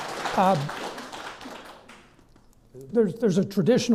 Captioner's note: clapping